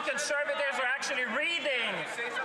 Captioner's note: some Applause; speaking French